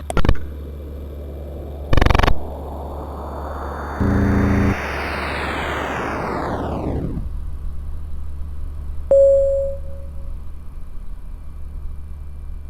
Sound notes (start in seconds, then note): 0.1 static buzzing; 9.0 computer chimes